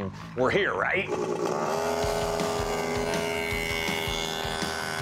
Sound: engines revving

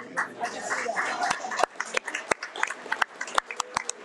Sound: audience applauding

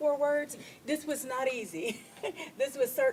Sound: laughs

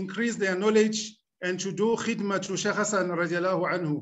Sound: speaking arabic

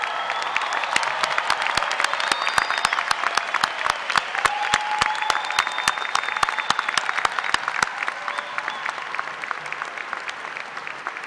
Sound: cheers and applause

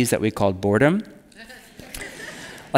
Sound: laughing

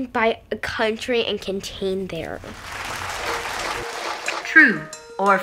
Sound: audience applauds

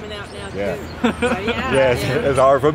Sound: laughs

